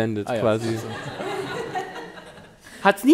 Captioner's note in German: Lachen